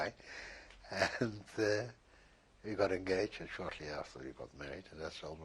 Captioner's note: laughs